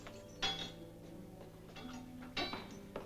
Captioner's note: metal clanking sound